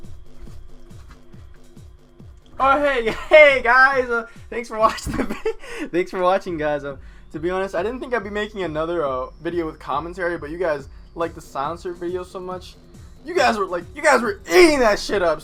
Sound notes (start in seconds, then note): 4.9 breaks down